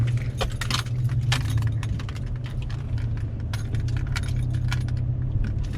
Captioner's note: keys clanging against steering wheel